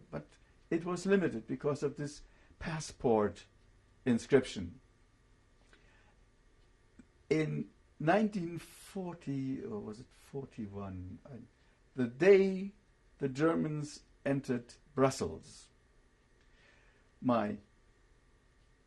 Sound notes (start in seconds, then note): 4.3 pauses for 3 seconds